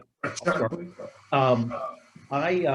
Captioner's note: distorted audio